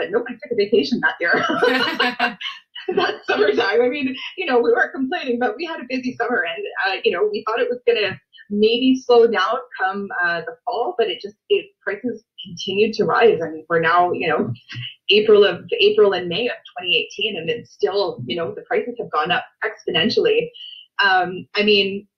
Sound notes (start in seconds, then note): 1.3 laughs